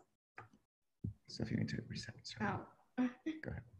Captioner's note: whispering